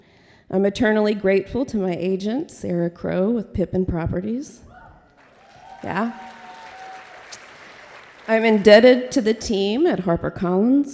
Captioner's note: applause